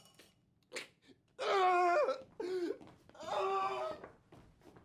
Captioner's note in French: pleurs